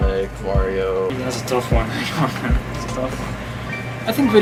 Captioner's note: chuckles